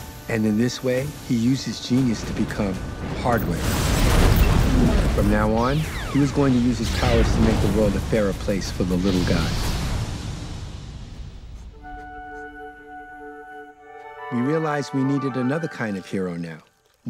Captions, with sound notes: And in this way, he used his genius to become Hardware. (explosion booming) From now on, he was going to use his powers to make the world a fairer place for the little guy. (flute playing) We realized we needed another kind of hero now.